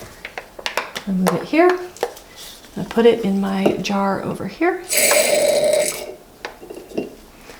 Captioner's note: ink splashes into jar